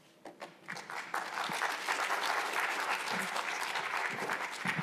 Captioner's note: attendees applauding